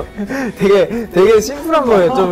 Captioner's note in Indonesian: tertawa